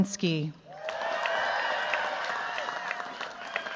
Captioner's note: cheers, applause